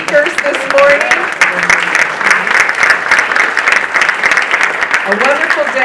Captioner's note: audience applauding